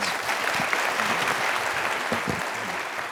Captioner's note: applause